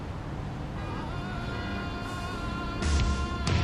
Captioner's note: cars honking; dynamic rock music